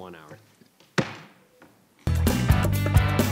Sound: gavel banging; upbeat rock music

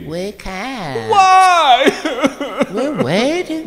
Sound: sobs

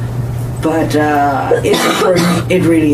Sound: coughs

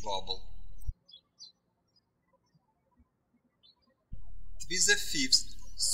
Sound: birds chirping

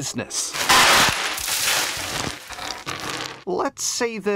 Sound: candy shuffling

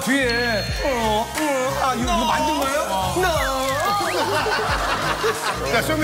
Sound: laugh

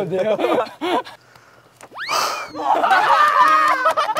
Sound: sigh

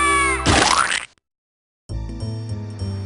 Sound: splat!

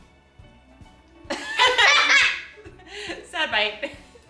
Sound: laughing

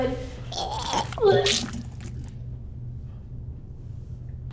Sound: vomit splatters

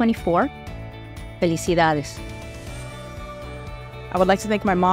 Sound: speaking Spanish

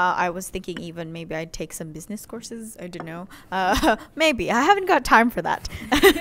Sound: laughter

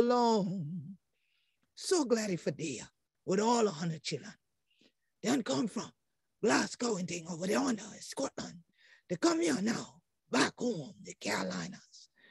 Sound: speaking Gullah/Geechee

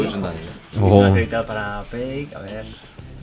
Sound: excited

